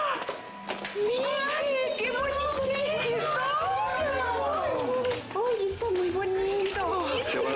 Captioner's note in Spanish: Exclamaciones